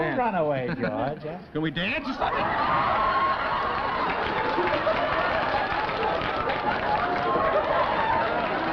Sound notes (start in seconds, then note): 4.5 laughter